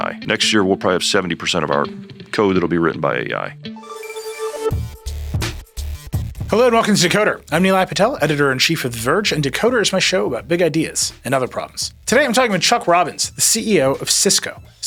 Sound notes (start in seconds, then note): 3.8 electronic ringing; 4.7 upbeat electronic music